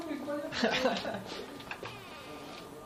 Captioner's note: laughs